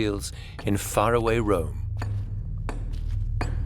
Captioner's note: chisel chinks against stone